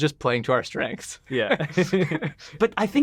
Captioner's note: laughs